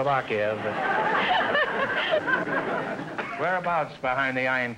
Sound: audience laughter

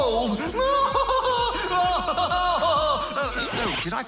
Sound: laughs evilly

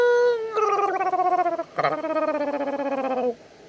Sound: grugling

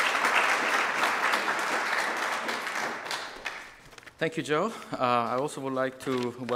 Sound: applause

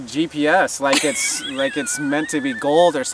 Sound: laughing

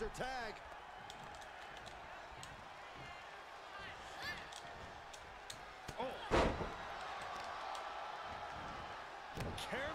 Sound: applause

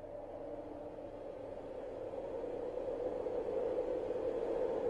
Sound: ominous wind

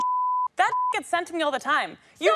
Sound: beep

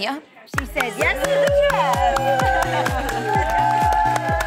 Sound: cheering

